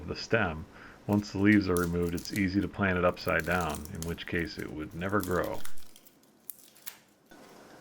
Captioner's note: leaves crunching